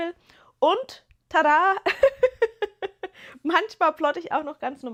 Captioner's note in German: gelächter